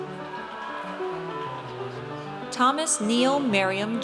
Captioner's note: audience cheers